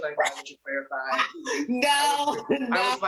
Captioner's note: laughs